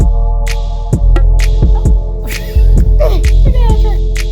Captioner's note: laughingly